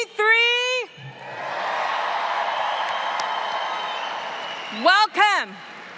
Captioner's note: audience cheers